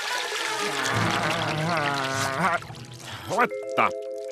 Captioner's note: moaning